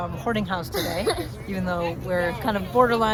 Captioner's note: laughing